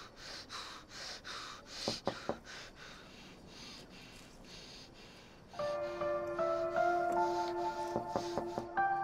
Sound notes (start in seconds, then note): 1.8 knocks on car window; 5.8 mouthing; 7.9 knocks on car window